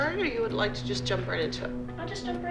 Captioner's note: none